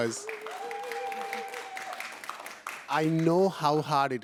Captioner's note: applause